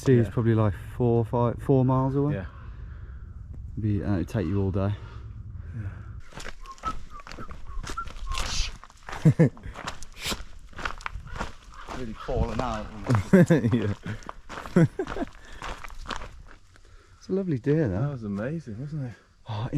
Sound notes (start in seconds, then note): 6.3 is whistling; 9.1 laughs; 13.1 chuckles; 14.6 laughs